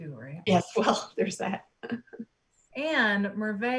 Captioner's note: soft giggles